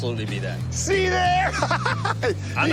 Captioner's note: laughs